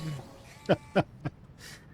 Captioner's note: laughing